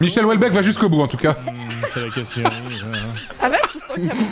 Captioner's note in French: rit de l'horreur de la blague